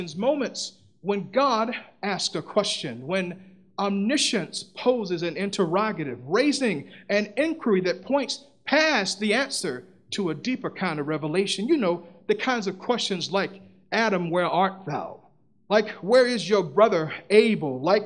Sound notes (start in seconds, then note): none